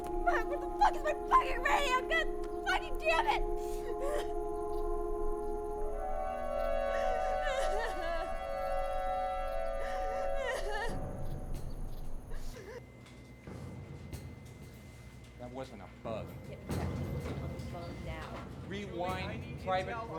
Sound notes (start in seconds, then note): 4.1 crying